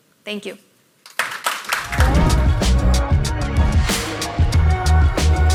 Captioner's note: audience applauds